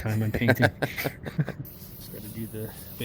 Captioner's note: laughing